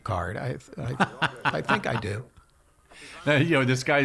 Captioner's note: laughing